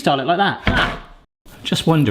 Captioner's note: tray clanks